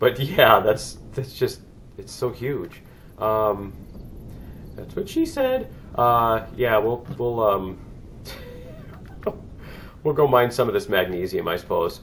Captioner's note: laughs